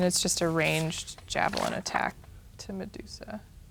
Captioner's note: paper rustling